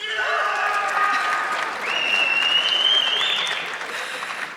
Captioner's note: audience clapping